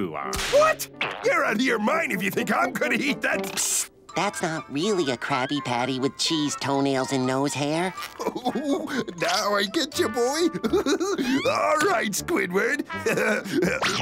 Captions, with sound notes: What?! You're out of your mind if you think I'm going to eat that! Psst, that's not really a Krabby Patty with cheese, toenails, and nose hair. [laughs] Now I get ya, boy. All right, Squidward. [chuckles]